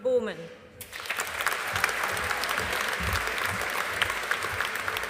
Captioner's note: audience applauding